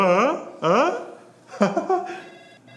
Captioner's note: laughs